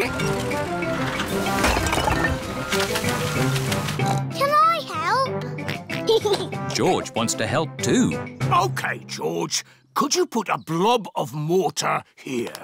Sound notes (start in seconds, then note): 4.0 oinks; 5.6 oinks and giggles